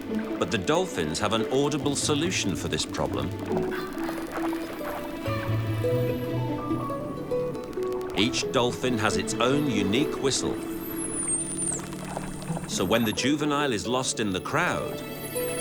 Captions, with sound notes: But the dolphins have an audible solution for this problem. Each dolphin has its own unique whistle. [dolphins whistling] So when the juvenile is lost in the crowd...